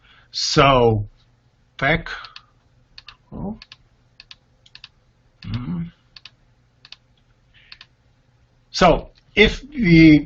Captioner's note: clicking sounds